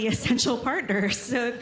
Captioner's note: laughter